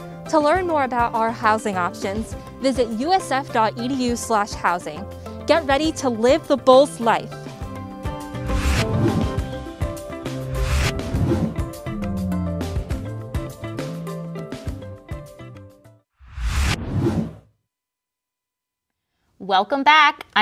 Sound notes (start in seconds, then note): 8.2 air whooshing; 8.2 bright music